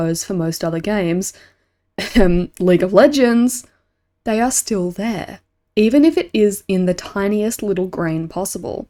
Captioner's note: cough